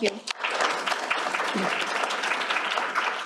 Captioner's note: applause